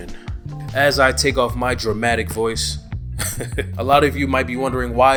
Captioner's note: laughs